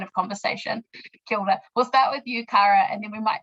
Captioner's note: speaking in foreign language